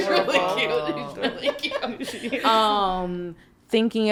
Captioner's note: podcasters laughing